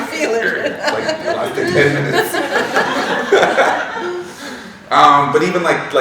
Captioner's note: laughing